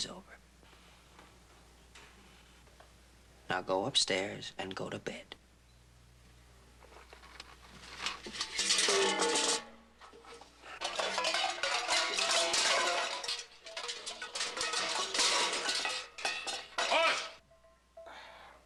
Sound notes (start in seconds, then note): 8.0 loud clatter